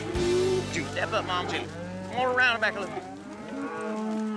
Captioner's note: cattle mooing